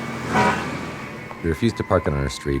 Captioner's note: κορνάρισμα